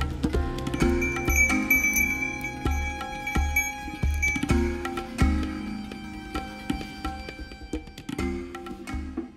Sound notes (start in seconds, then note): 0.7 bell ringing